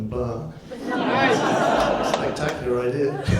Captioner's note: audience laughs; laughs